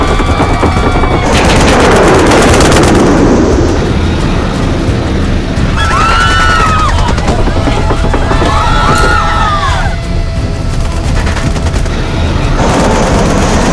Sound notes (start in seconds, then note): 0.0 shooting continues; 5.7 screaming; 12.5 shooting